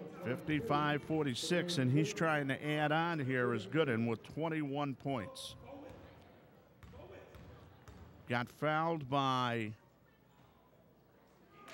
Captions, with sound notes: 55-46, and he's trying to add on. Here is Gooden with 21 points. (ball pounding) (yelling) Got fouled by